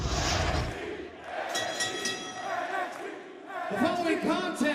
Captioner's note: fans chanting; bell ringing